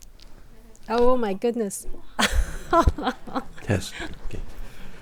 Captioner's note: laughs